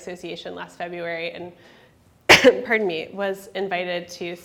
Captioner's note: coughs